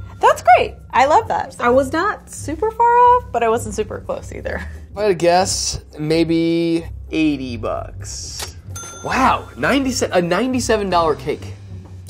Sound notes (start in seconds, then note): 8.5 cash register dinging